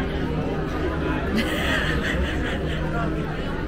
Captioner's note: laughter